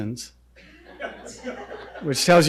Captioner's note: audience laughing